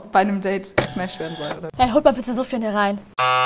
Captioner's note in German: Buzzer